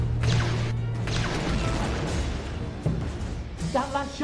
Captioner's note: explosion rumbles